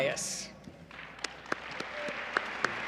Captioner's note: applause